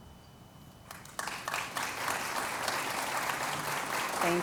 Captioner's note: applause